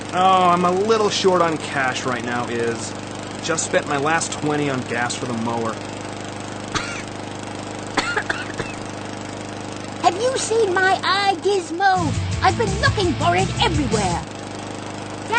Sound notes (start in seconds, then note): 6.2 coughing; 12.0 theme music